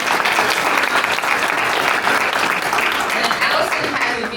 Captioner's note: applause